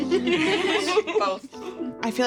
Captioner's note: all laughing